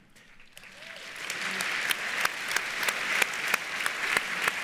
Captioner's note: audience applauds